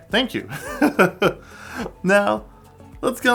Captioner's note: laughing